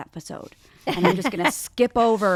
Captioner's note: laughs